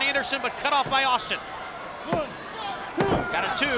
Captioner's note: hands thudding